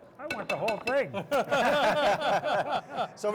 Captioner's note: group laughs